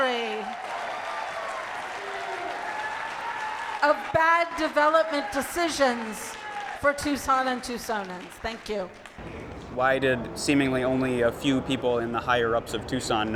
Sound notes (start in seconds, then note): 0.6 crowd cheering